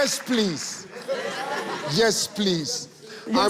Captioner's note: audience laughing